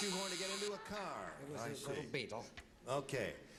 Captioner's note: as paul lynde